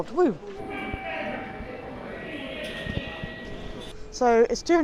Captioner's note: subway gong chimes